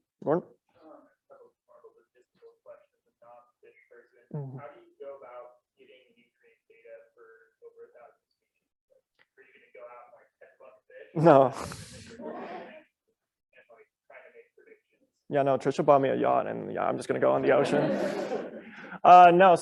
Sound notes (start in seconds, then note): 11.5 laugh; 17.4 laughter